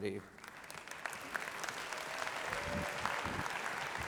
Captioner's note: applause